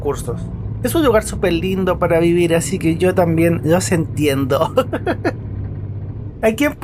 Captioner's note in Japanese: ハハハ